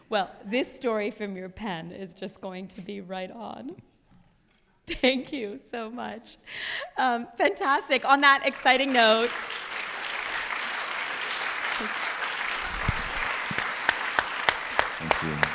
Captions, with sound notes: >> Well, this story from your pen is just going to be right on. Thank you so much. Fantastic on that exciting note. [ Applause ] >> Thank you.